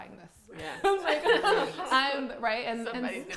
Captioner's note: laughs